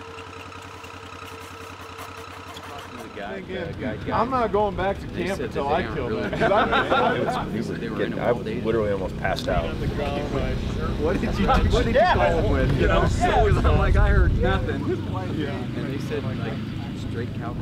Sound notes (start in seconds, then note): 3.6 hunters talking in camp